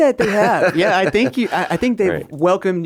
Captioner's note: laughing